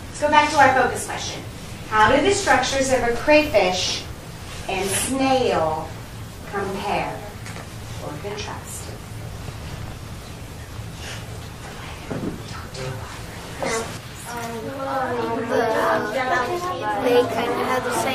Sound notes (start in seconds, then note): 7.3 whispering; 11.2 students discussing with each other